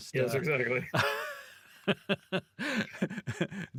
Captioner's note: laughing